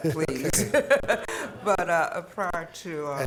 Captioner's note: laughing